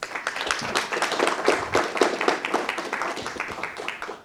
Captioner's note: audience applauds